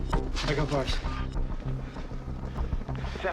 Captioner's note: line rings